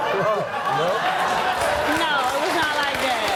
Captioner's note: audience laughs; audience clapping